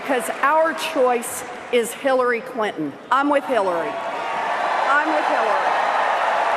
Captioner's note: cheers and Applause